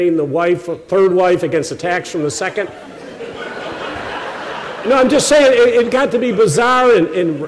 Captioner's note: laughter